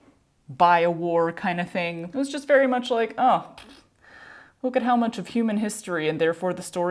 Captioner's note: mouth fart